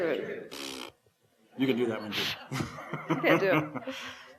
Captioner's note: blows raspberry